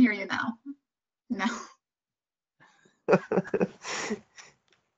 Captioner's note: both chuckle